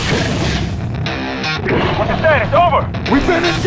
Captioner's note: radio